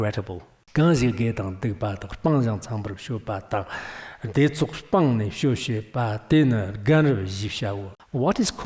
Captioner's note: giving oral transmission in Tibetan